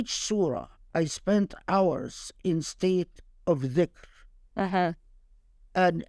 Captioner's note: speaking Arabic; speaking Arabic